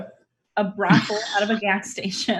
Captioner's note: laughs